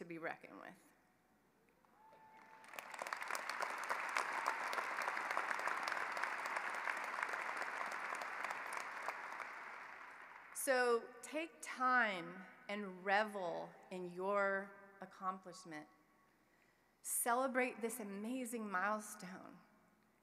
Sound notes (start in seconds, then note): 6.8 applause